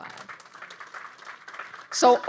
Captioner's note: audience applauding